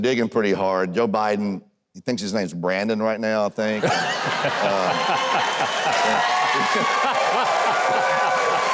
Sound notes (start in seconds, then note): 3.8 audience cheers